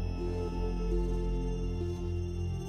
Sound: none

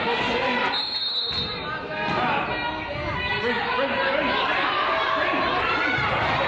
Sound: whistle blows; coaches yell

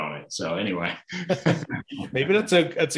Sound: both laughing

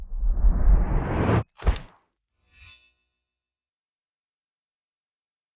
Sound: camera shutter clicks

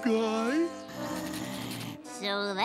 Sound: growling

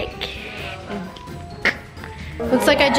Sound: chokes

